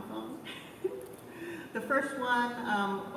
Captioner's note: chuckles